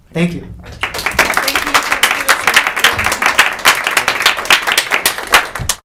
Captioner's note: audience applauding